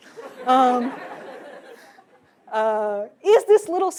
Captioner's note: laughter